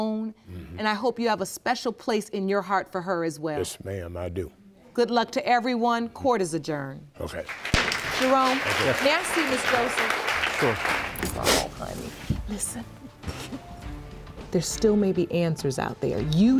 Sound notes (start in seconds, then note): 11.2 sniffling